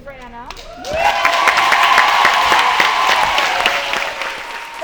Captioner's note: crowd cheering loudly